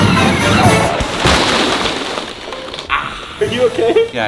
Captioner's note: dramatic music; chocolate clatters